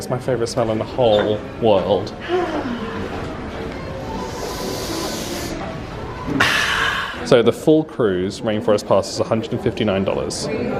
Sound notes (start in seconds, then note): 2.2 sighing; 4.3 deeply breathing